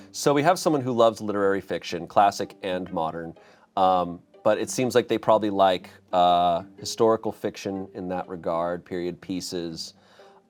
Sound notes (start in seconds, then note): none